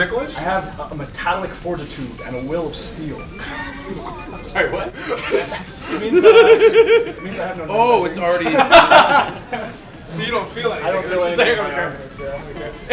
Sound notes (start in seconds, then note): 4.6 laugh